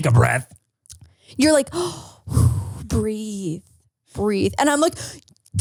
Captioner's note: inhaling and exhaling